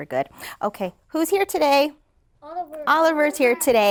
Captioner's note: class in unison